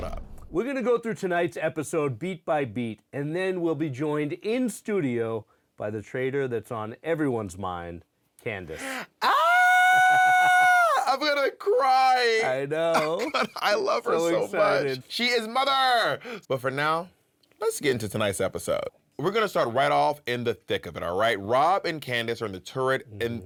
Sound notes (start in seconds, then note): 11.0 screams